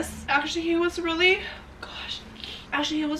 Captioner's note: tearful